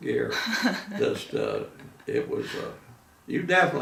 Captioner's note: laughing